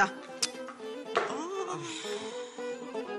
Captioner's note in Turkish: İç çekme